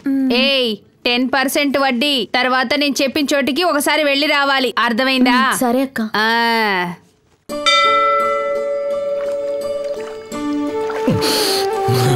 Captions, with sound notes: Hey, 10 percent interest rate. Later on you need to go to the place I say. Got it? - Okay, sister. (Temple bell rings)